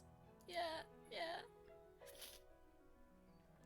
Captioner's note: sniffs